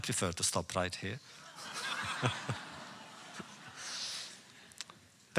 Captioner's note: laughter